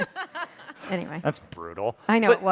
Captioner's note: audience laughs